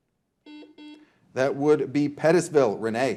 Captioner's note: buzzer buzzing